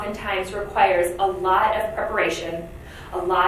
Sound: none

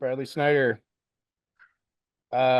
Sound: pause

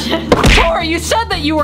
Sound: laughs; thud

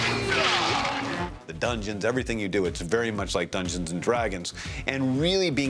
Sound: grunting

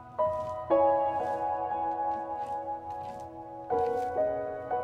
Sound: dramatic music; leaves rustling

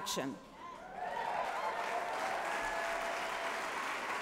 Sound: applause

